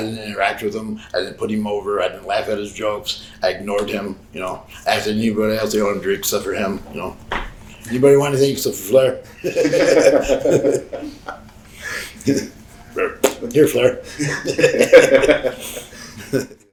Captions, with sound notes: I didn't interact with him. I didn't put him over, I didn't laugh at his jokes. I ignored him, you know? Ask anybody else, I ordered drinks except for him, you know? "Anybody want anything, except for Flair?" (Sabu chuckles) (Sabu spits) Here, Flair. (Sabu chuckles)